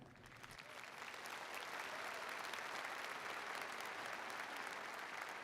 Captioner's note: attendees applauding